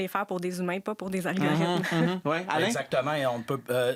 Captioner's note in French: rires